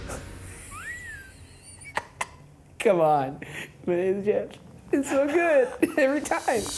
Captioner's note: laughs